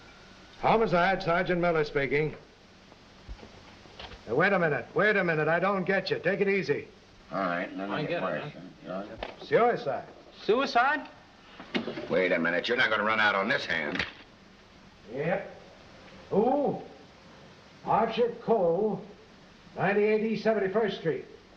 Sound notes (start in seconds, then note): 7.3 all chattering